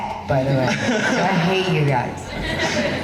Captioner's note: laughing